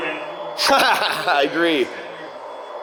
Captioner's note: laughs